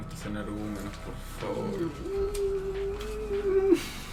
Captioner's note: sighs